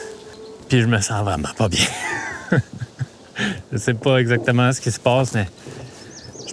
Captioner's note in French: rires